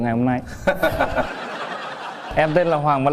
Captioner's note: laugh